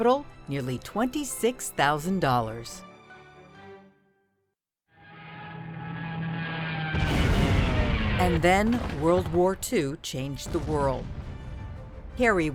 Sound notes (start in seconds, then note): 6.9 airplane engine roaring; 7.6 explosion